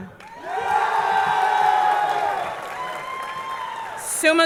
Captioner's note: audience clapping; audience cheering